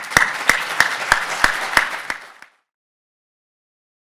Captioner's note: applauding